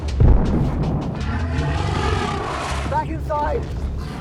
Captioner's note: dragon thuds